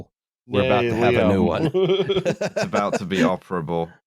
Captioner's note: laughs